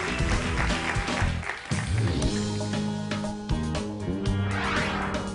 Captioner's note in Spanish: Aplausos